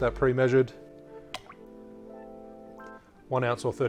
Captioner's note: liquid sloshing